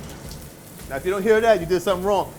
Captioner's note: sizzling steak